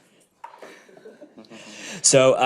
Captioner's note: audience chuckles